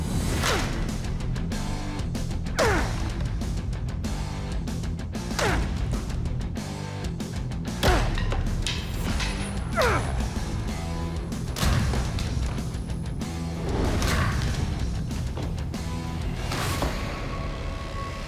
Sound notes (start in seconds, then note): 0.1 rock music; 2.5 grunting